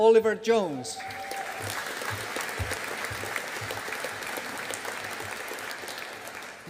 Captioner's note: audience applauding